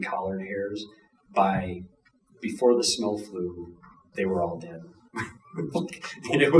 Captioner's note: chuckling